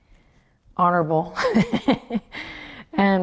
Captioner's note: laughs